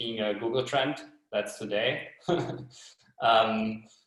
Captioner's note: chuckles